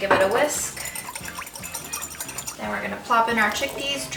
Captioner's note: whisking sound